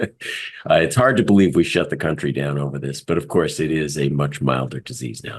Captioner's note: laugh